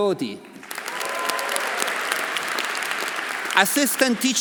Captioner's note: audience applauding; audience cheering